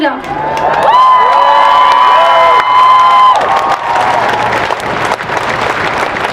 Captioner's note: applause